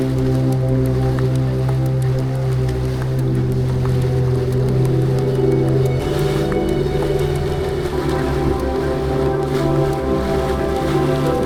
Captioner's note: wind blowing